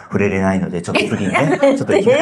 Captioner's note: laughs